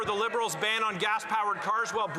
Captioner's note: some Applause